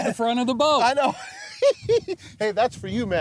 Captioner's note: giggles